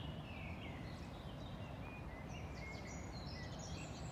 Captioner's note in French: Chant des oiseaux